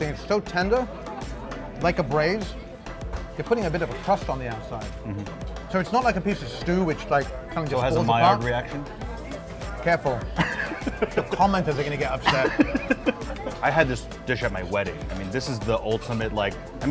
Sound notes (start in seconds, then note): 10.3 laughs